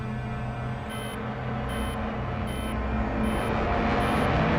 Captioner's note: electronic beeping